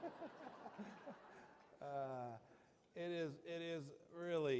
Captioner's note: laughter